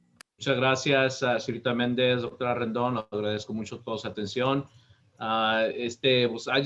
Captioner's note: speaking Spanish